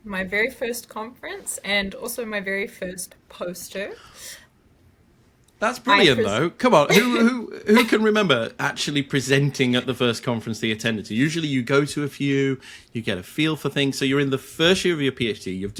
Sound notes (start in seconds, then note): 6.9 laughing